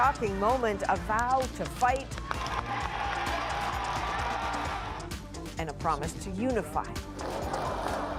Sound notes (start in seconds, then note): 3.7 cheers and Applause